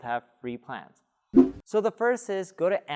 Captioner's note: air whooshing